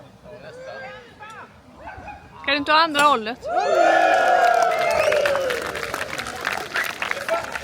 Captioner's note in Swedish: jubel; applåder